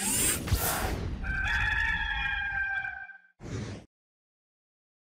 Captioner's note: servos running; rooster crowing